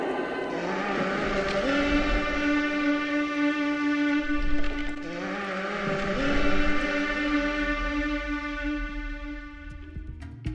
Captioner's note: Toruk call sound effect